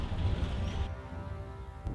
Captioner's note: birds chirping